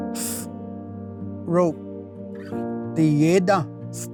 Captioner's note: repeats in Cherokee